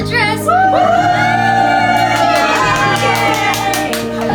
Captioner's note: cheering